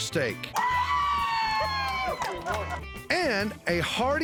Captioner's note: cheering